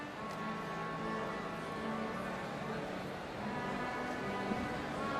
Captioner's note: crowd chattering